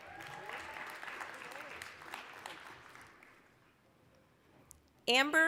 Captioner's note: applause, cheering